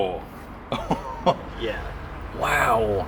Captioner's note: laughter